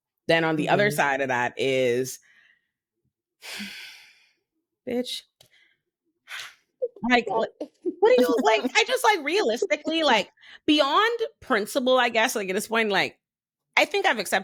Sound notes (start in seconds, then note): 3.5 sighs; 7.3 laughs